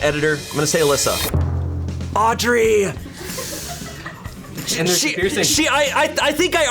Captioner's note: colleagues laughing